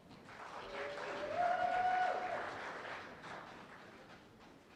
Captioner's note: cheers and applause